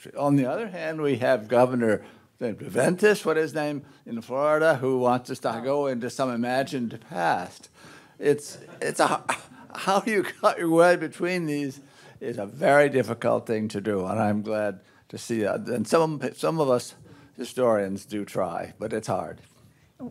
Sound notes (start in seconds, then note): 8.5 audience chuckles